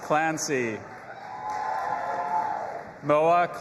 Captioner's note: audience applauding and cheering